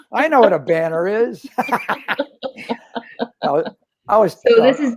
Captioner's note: laughter